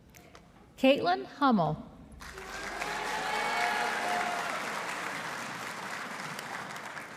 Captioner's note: audience applauding